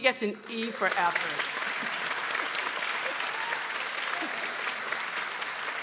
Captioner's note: people applauding